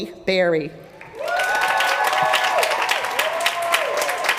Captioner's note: applause